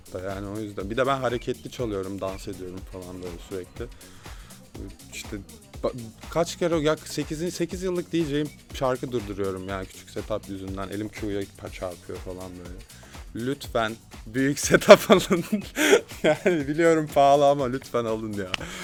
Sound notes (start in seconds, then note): 14.7 laughs